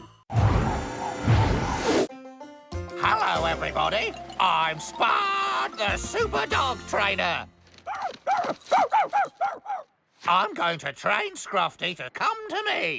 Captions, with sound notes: ( Whirring ) HELLO, EVERYBODY! I'M SPUD THE SUPER DOG TRAINER! ( Barking Wildly ) I'M GOING TO TRAIN SCRUFFTY TO COME TO ME.